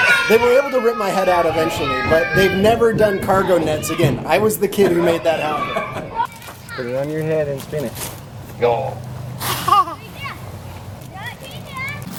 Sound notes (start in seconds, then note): 4.6 laughs; 9.6 laughs